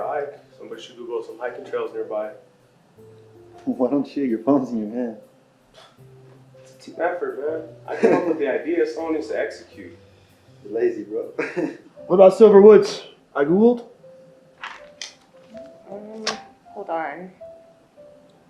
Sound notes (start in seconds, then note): 5.9 scoffs; 11.3 laughs; 14.3 gentle music